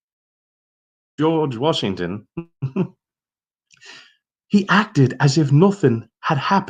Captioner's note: chuckling